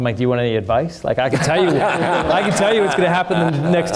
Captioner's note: everyone laughing